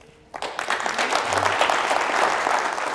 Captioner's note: applause